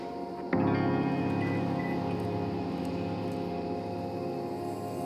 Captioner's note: car chirps